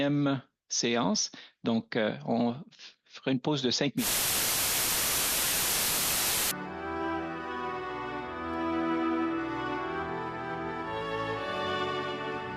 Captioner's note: speaking French